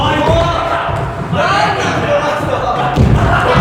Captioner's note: indiscriminate cheering